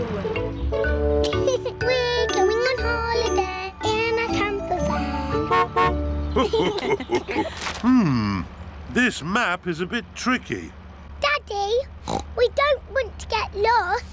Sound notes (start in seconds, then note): 1.2 laughs; 4.8 horn honks; 6.3 laughter; 12.0 oinks